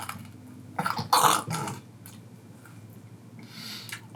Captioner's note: gags